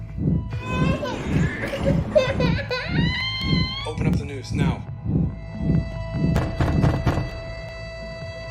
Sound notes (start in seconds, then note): 0.2 baby wailing; 6.1 door pounding